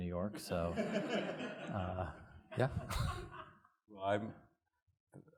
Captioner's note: audience laughs